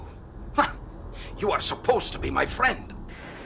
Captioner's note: scoffs